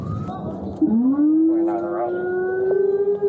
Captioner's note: radio chatter